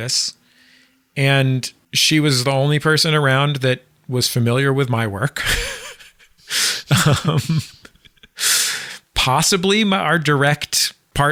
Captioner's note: laughs